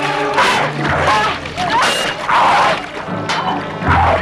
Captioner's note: man growls; both grunting